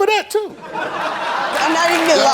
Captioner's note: audience laughs